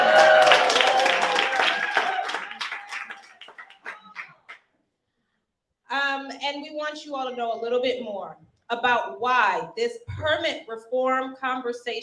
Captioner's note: cheering and applauding